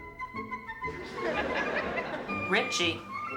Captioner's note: laughter